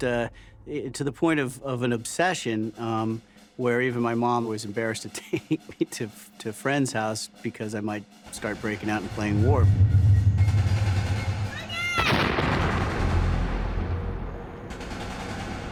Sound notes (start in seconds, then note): 10.3 gun shot; 10.5 machine gun fire; 13.6 gun fire